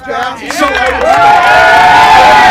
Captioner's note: crowd Cheers